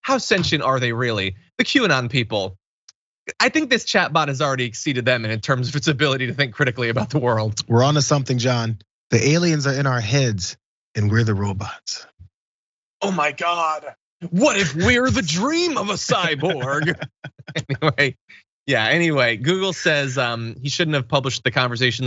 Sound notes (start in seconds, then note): 17.2 laugh